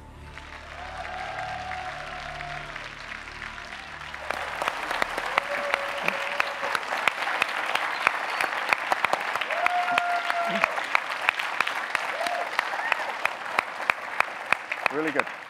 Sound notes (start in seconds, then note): 0.0 audience clapping, cheering